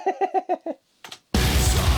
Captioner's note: laughs